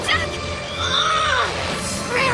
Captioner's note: grunts